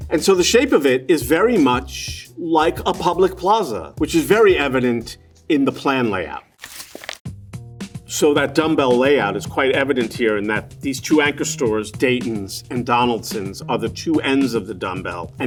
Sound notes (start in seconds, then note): 6.5 paper rustling